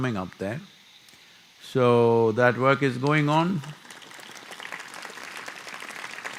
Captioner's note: applause